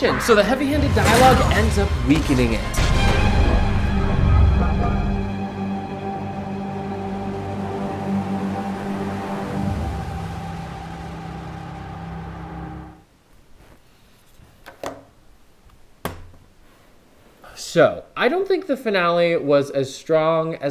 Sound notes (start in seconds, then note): 3.6 music crescendos; 16.3 laptop closes